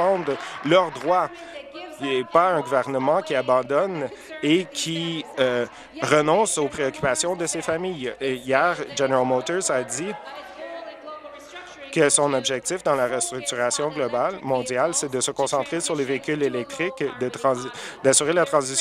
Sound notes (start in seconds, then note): 0.0 applause